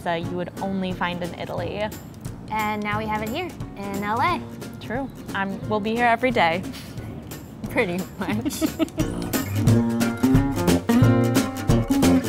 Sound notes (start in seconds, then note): 8.2 laughter